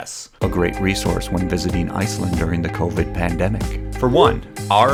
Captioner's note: bad ASMR voice